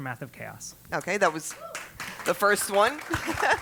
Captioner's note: applause; laugh